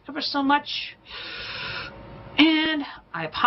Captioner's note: inhales sharply